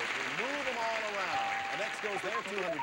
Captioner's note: audience applauding